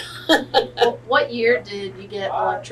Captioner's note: laughs